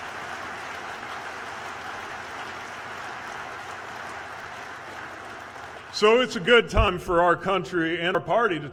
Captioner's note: applause